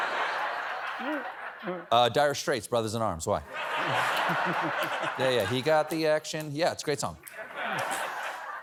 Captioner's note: laughter